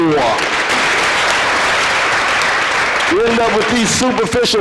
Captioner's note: audience applause